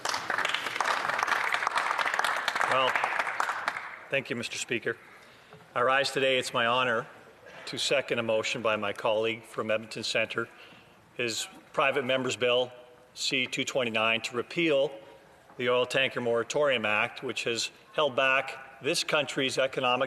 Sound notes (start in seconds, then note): 2.6 some Applause